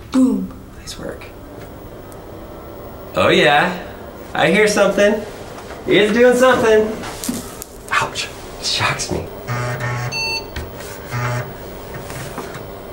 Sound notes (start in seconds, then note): 7.2 static crackles; 9.3 computer buzzes